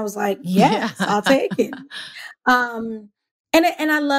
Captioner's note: laughs